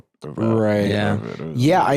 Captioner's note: others agreeing